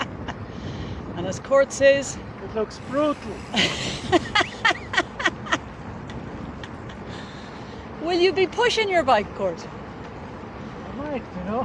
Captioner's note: laughter